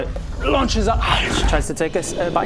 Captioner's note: chompy chomp